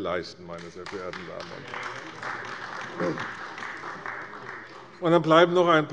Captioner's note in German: Beifall bei der CDU